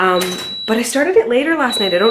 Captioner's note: oven beeps